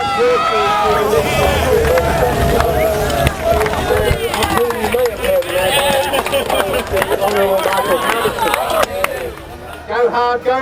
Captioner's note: cheering